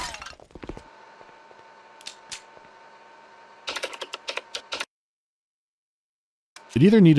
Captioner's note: electric hum of a junction box, keyboard clanks and nothing else